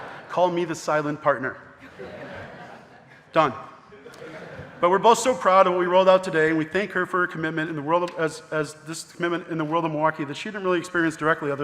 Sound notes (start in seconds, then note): 0.0 audience laughing; 1.8 audience laughing